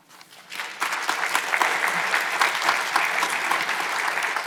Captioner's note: audience applauds